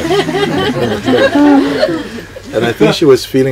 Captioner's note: more laughter